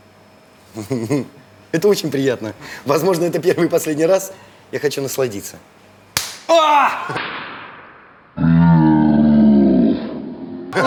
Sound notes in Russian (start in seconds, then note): 6.1 Звук пощечины